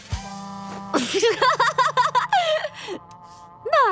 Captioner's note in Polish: śmieje się